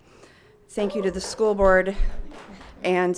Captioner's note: audience member cheers